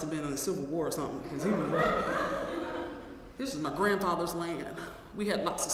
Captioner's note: laugh